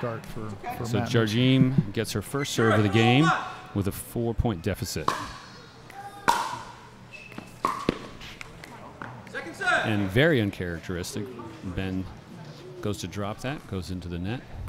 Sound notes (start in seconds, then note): 5.7 ball bouncing